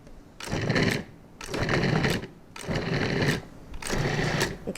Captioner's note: mixer whirring